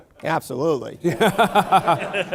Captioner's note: laughter